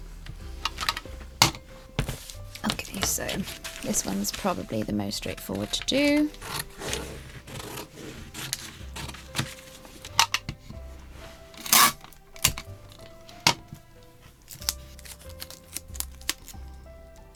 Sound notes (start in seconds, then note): 0.2 tape dispenser thuds on desk; 5.2 scissors snipping; 10.1 tape pulling and ripping; 14.4 sticky noises